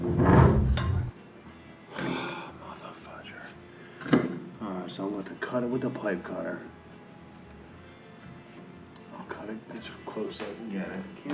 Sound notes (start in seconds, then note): 2.0 sigh